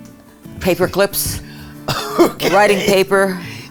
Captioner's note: laughs